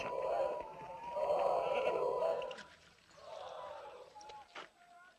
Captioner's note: people chanting indistinctly